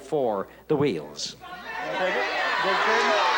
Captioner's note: audience chatter